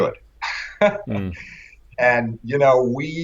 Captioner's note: laughter